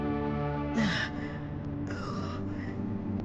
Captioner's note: grunting